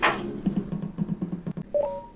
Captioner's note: both knocking door; walking; task noises